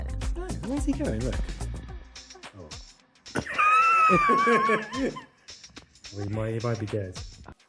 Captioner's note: laughs